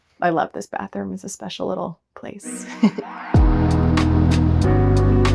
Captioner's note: chuckles